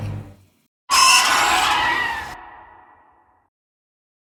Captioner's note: Erzkæhe screeching